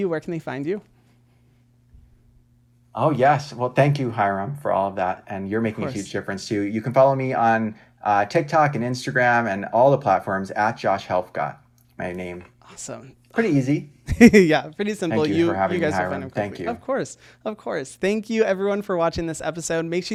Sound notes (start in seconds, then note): 14.1 laughs